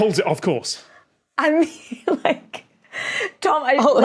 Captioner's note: laughs